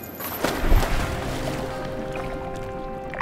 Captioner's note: splash!